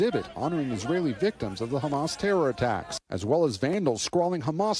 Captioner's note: crowd chanting